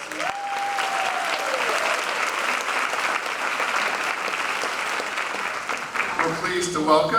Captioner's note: applause